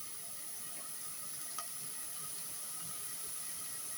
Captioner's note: sizzling